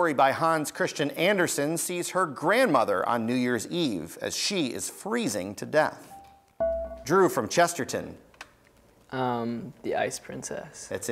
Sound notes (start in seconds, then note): 6.6 buzzer beeps